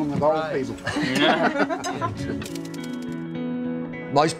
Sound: people laughing

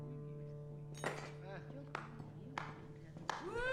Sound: one person claps

